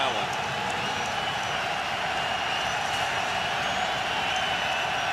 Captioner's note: cheering